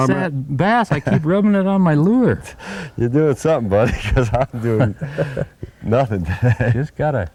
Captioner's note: laughter